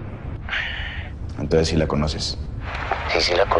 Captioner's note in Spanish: Ríe